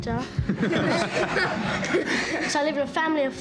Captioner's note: all laugh